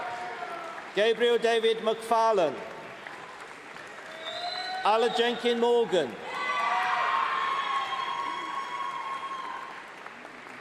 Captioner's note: cheering; cheering; applause